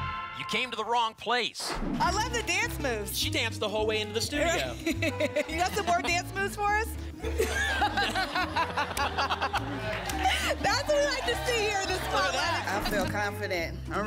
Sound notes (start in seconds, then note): 4.5 laughs; 7.2 laughter